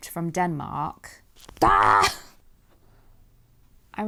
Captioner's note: exasperated scream